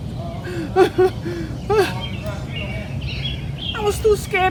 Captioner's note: laughing